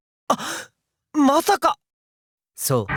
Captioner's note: gasp